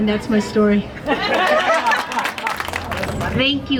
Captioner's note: people laughing and applauding